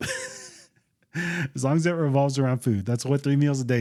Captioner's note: laughs